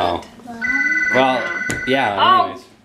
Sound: phone rings

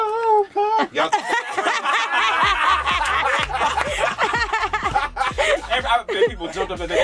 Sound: laughter

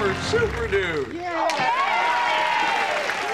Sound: cheering

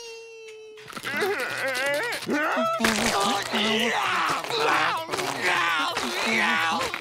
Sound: groaning

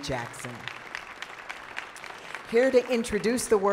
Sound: audience applauding

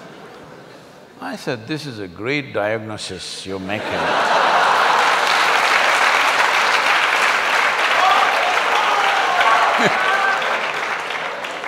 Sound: laughter\Applause

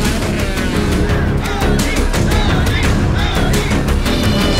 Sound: crowd Cheering

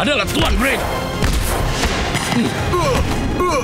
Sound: grunting

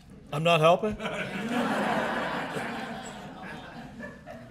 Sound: laughter

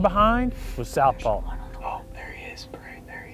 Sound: whispering

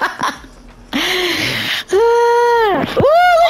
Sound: laughing out loud; gasps and sighs

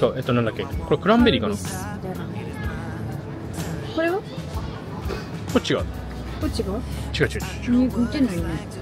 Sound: laughs

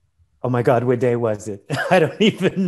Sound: laughs

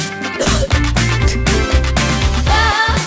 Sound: coughs and spits

